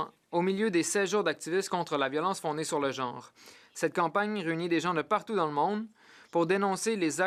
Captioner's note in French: voix de l'interprète